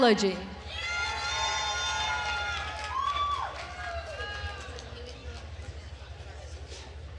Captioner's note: attendees cheering and applauding